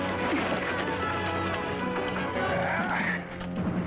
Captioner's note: thudding; grunting